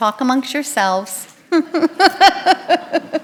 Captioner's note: laughter